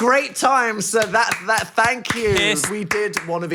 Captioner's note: claps